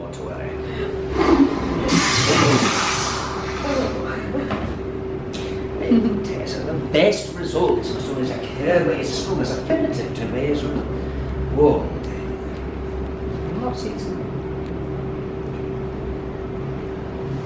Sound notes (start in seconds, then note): 1.1 lightning zap